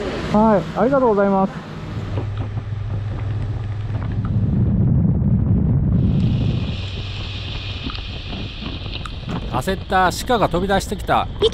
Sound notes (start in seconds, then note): 2.0 motorcycle and rain, sound of wind